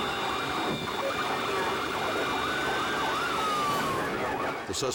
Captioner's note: car crashes; sirens wailing; tense dramatic music